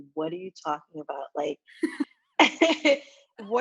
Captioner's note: laughs